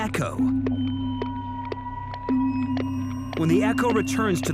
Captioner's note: sound pulses booming